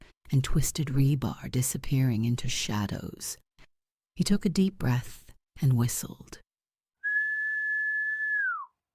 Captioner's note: whistles